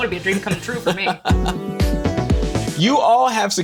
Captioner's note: laughs